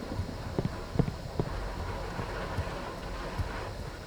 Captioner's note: thunderstorm continues